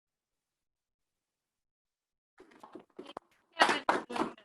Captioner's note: clapping